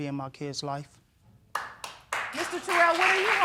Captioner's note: audience applauds